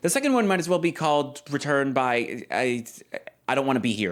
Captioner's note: stammers